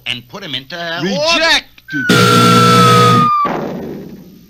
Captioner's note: buzzer Sounds; crash!